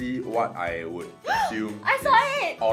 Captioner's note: gasps